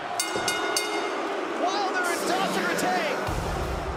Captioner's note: crowd cheering; bell ringing